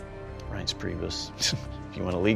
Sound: laughs

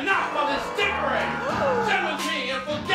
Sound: gasps

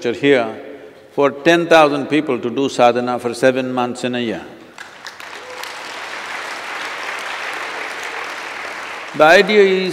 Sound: applause

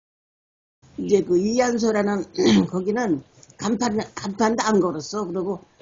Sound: speaks in foreign language

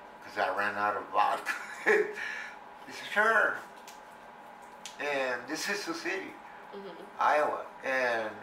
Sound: laughs

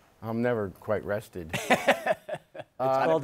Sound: laughs

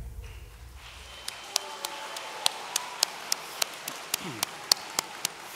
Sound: audience applauds

